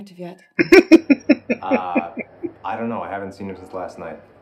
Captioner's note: laughing